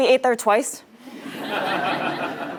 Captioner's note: laugh